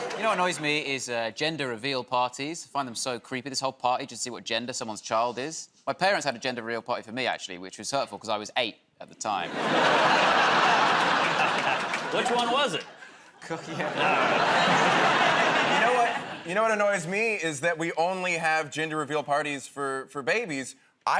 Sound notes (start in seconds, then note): 9.4 laughter